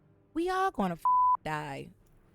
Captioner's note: beep